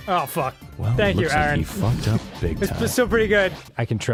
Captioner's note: snickers